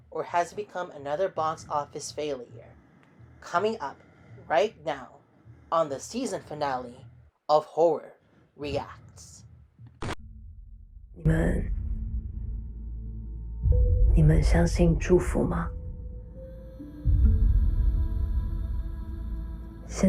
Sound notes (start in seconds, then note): 10.0 static noise; 12.3 speaking in taiwanese